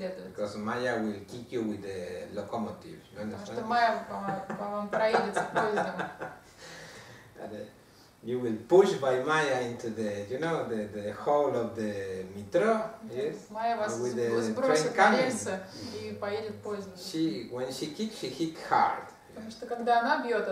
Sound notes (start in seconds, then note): 4.0 hahaha